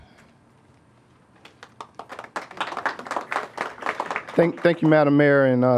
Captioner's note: applause